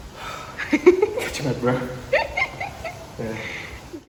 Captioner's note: catching my breath